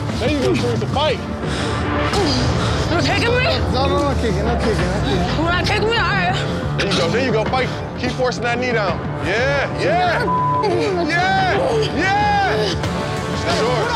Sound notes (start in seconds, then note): 10.2 beep